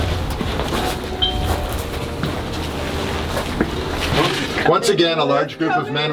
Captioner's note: doorbell chimes